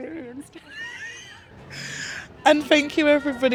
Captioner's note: laughs